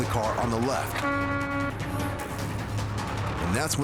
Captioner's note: horn honking